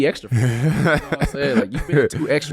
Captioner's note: laughing